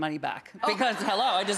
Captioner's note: audience laughing